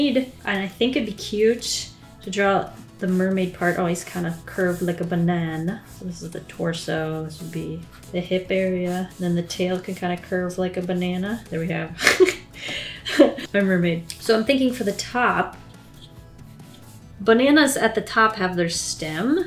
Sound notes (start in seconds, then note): 12.0 laughs